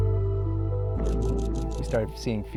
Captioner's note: camera shutter clicking